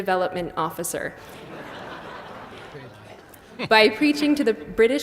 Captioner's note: laughs